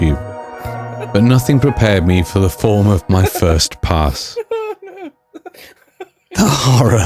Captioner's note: background hysterical laughter